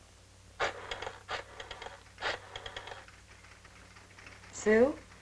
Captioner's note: rotary phone rattling